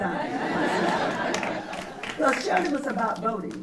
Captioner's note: laughter